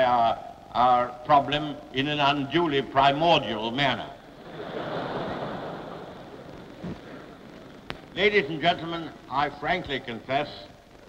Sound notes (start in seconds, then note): 4.4 laughter